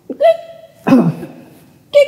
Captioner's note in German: Räuspern